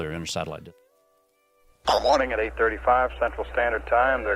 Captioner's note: radio transmission